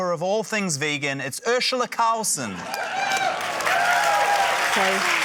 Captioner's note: cheering, applause